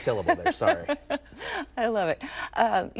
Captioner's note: laughing